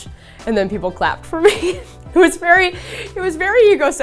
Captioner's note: laughs